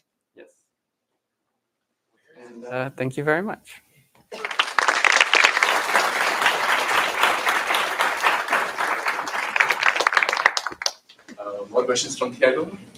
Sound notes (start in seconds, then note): 4.3 applause